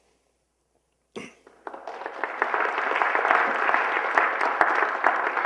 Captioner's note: applause